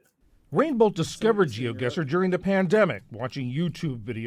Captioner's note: voice-over